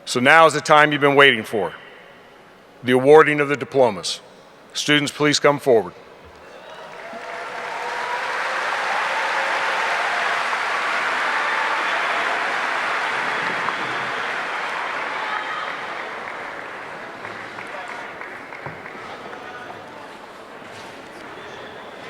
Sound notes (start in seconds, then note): 7.3 audience applauding; 7.3 audience cheering